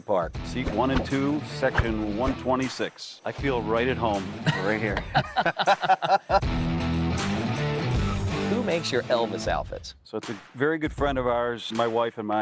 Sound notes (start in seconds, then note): 4.4 both laughing